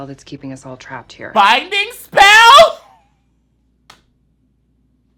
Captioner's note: laughs